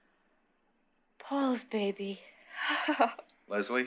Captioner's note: relieved sigh